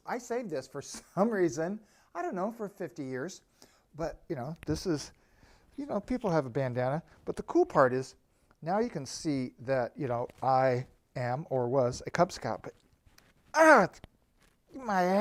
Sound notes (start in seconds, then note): 14.7 struggling